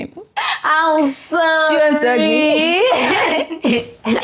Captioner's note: laughs